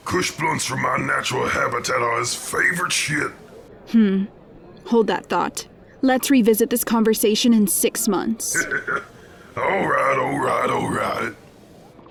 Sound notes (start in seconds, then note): 8.4 laughs